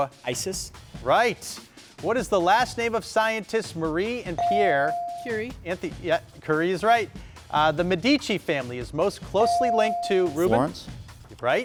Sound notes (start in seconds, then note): 4.4 bell dings